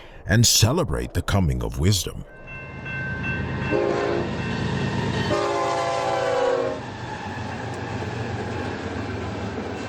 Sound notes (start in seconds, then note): 3.1 train horn honking